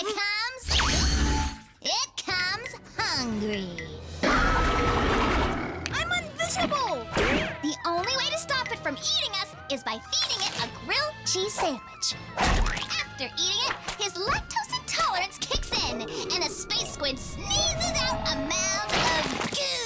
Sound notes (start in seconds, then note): 4.2 roars